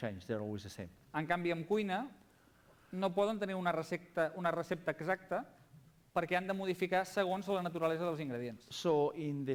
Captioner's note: non-english speech